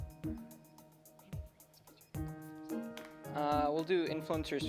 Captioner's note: players whisper